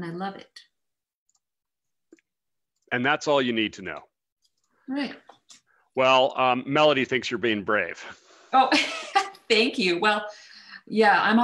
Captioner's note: laughs